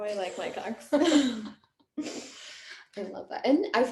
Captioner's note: laughing